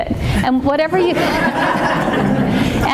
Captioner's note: laughing